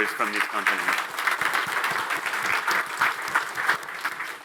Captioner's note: audience applauding